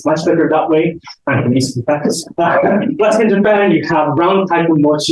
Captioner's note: chuckles